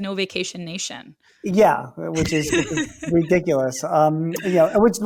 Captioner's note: laughs